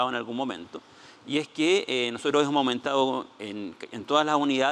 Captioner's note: speaking Spanish